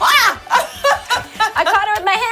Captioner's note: laughs